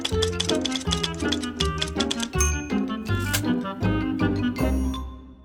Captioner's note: typewriter clacking; bright music